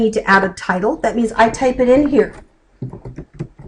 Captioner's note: typing